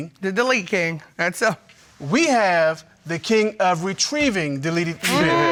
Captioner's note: none